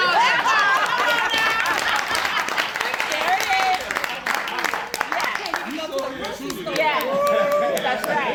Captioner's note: laughter and applause